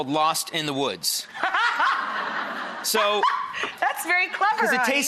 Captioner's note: and audience laughs